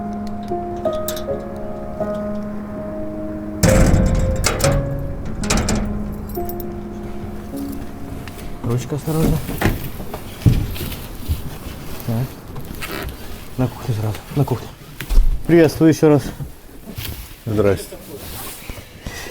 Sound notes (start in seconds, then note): 3.6 bang